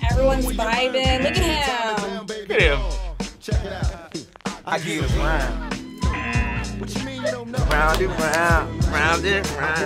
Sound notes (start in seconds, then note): 4.8 laughs; 5.7 upbeat hip-hop music; 6.0 buzzer buzzing